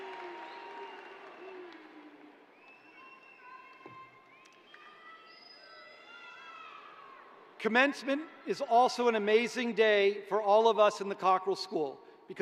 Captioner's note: cheering